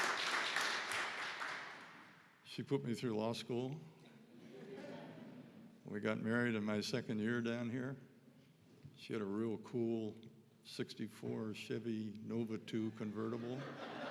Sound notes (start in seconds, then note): 4.5 audience laughing; 13.1 audience laughing